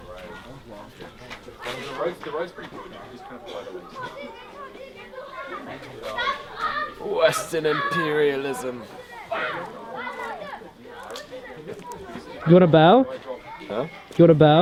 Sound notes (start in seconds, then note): 0.9 people chatter; 9.7 children playing nearby